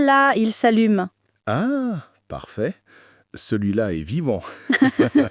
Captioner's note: laughs